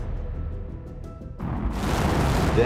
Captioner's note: rocket launching